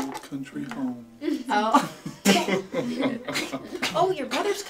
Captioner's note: laughing